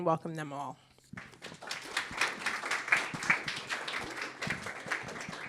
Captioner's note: applause